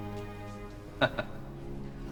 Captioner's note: laughs